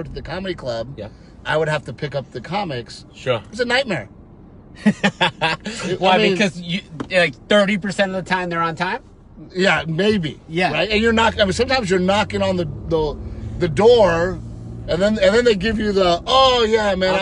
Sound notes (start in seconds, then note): 4.8 laughter